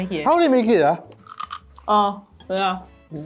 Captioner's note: crunch!